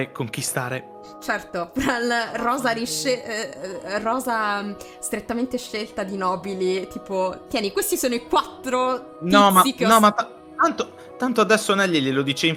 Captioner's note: fumbled over words